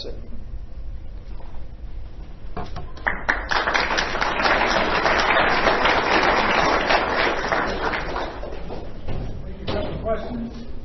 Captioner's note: applause